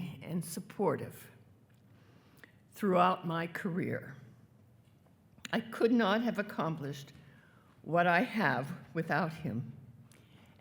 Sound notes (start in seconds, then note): none